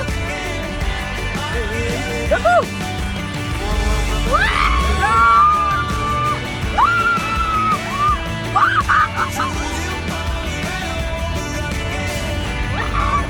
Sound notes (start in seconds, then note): 6.7 screaming; 8.4 intense screaming